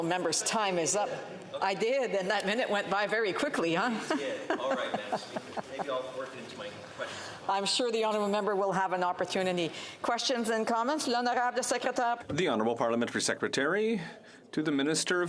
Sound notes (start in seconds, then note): 11.0 off mic